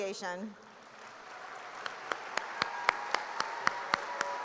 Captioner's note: applause